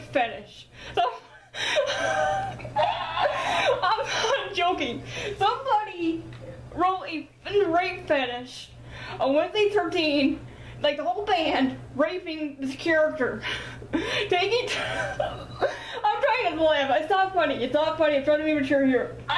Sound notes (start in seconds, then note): 1.0 laughs; 14.8 laughs